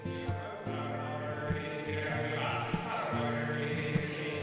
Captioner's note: auctioneer chanting